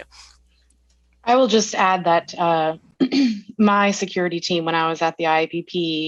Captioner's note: clears throat